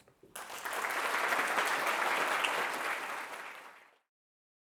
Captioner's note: audience applauds